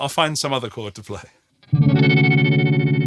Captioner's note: blaring sound